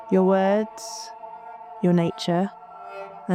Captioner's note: none